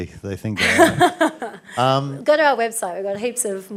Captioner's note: laughs